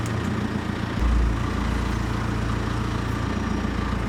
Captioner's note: vehicle rumbling